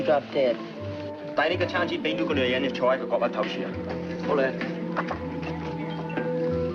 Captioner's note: men speaking in foreign language